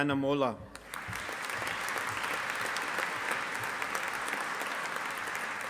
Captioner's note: audience applauding